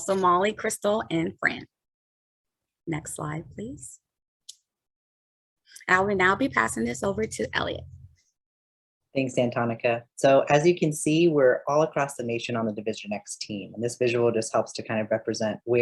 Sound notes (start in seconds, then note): none